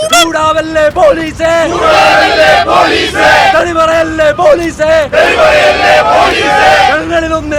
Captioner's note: protesters Sloganeering